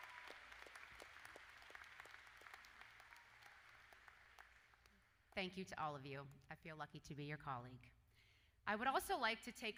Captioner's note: cheers and Applause